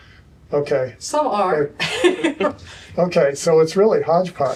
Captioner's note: laughter